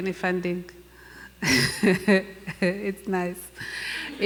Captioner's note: laughs; laughing